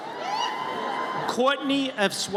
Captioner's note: audience cheers